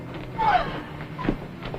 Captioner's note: gasps